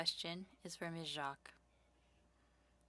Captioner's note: speaking French